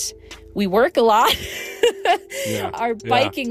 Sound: laughing

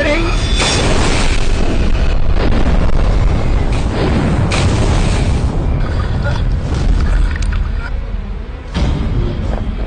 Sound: crash

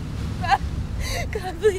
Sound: Veronica sobbing

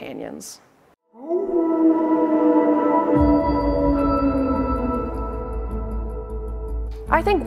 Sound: wolf calls

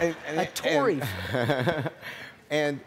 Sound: audience laughing

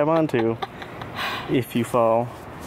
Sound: laughs

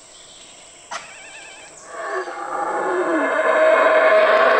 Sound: birds chirping and monkeys roaring

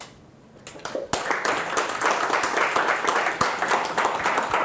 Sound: applause

